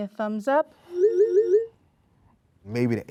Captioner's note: dinging sounds